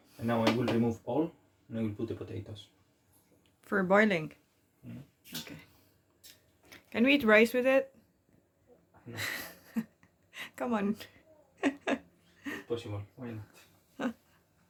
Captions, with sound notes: Now I will remove all, and I will put the potatoes For boiling? OK. Can we eat rice with it? No. C'mon.. (laughing) It's possible, why not?